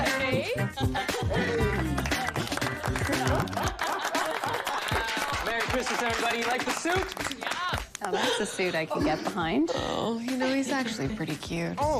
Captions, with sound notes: [applause] Merry Christmas, everybody. You like the suit? Now that's a suit I could get behind. Oh, you know, he's actually pretty cute. Oh, , what?